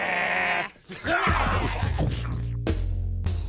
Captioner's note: both growling hungrily